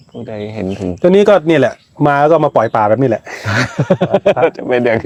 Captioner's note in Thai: เสียงหัวเราะ